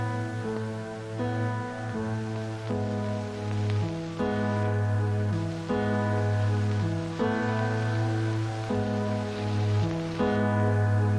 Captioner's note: music and tape recorder static fades out